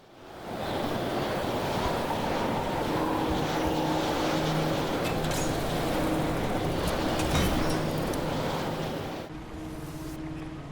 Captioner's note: the loudest wind noises of all time